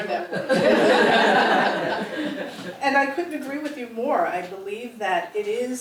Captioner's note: laugh